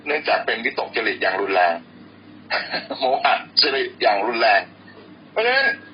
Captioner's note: laughing😂